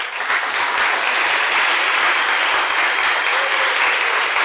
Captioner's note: applause